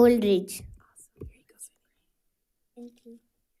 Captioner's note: whispers indistinctly